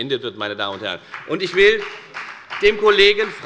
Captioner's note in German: Beifall bei der FDP